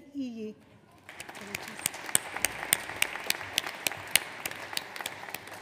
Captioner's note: audience applauds